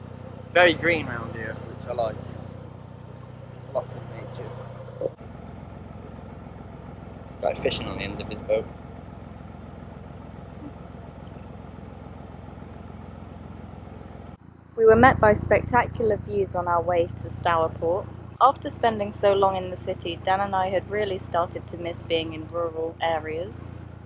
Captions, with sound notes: Very green round here which I like Lots of nature There's a guy fishing on the end of his boat. [Narrowboat engine sounds] We were met by spectacular views on our way to Stourport. After spending so long in the city, Dan and I had really started to miss being in rural areas.